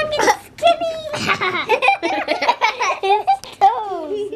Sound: laughter

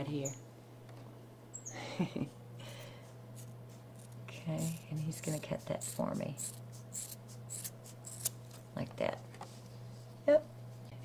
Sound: laughter

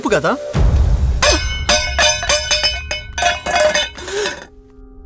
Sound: clattering

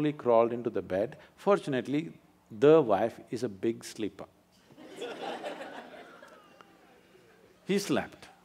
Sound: laughter

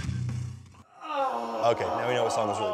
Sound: groaning

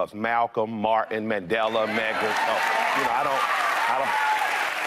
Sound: audience cheering

